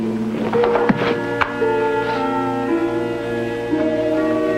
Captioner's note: bushes rustling; rock rattling; gentle tense music